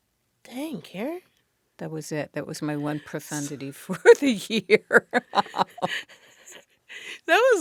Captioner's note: laughter